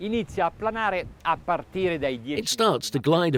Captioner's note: speaking in foreign language